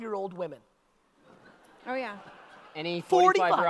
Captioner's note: audience laughter